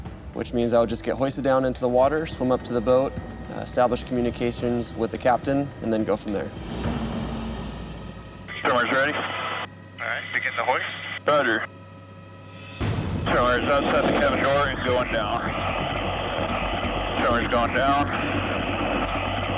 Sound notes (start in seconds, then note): 10.0 muffled radio chatter; 14.6 man On Radio